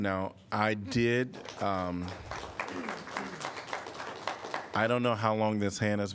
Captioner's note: applause